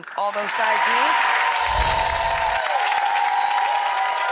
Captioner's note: audience cheers